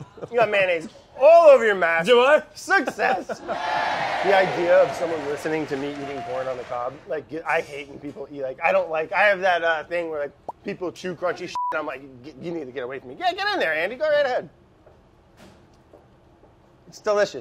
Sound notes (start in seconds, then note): 2.8 laughs; 3.3 crowd cheering